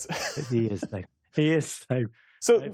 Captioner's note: laughter